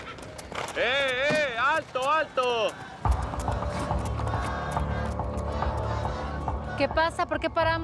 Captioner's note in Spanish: relinchos; continúan cantando